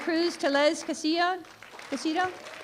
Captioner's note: applause